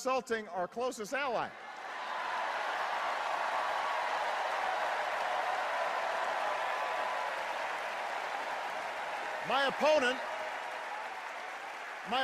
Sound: applause and cheers

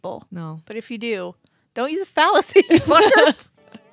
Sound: chuckling; murmurs

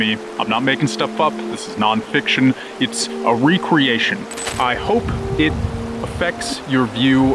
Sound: glitch

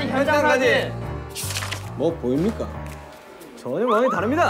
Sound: mysterious footstep

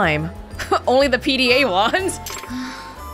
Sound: chuckles

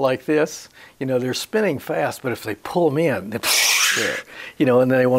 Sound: makes a swishing noise

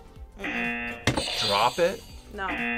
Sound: audio buzzes

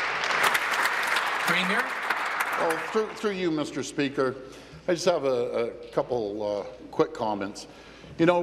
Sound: applause

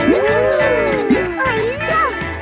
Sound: kids gasping and laughing

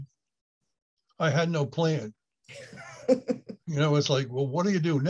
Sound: laughs

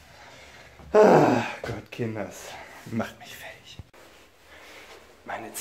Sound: grunt

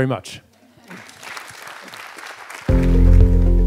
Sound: applause; light music

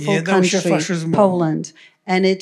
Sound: foreign language

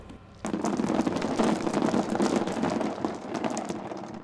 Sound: acorns clattering

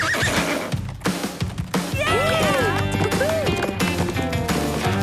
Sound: all cheer

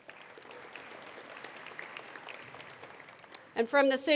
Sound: attendees applauding

